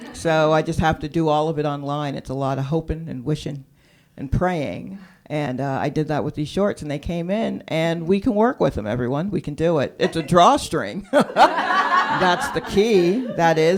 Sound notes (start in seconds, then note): 11.0 laughter; 11.1 laughs